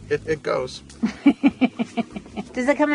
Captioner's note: woman laughs